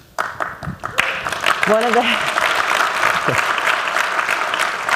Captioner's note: applause